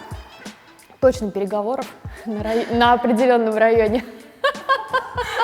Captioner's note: laughing